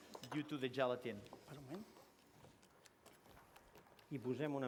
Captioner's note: non-english speech